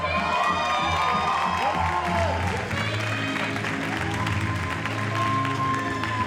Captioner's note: audience cheers and applauds